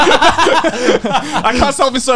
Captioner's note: both laugh